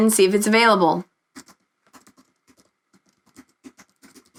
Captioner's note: keyboard clicks